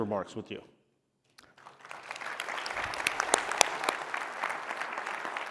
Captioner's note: applause